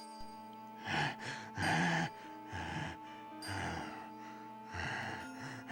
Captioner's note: inmate breathes heavily